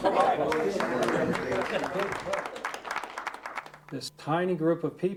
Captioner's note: group clapping